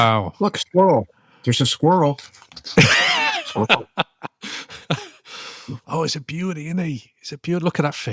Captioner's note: laughter